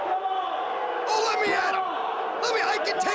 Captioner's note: crowd cheering